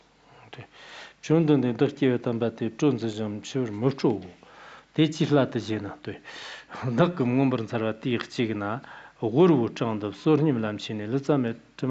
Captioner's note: giving oral transmission in Tibetan